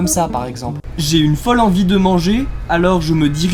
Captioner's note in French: voix de journaliste